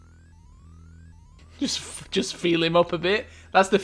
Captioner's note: laughing